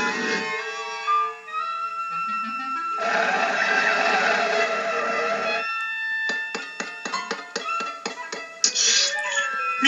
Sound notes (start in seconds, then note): 2.9 Screech; 6.3 tap Tap Tap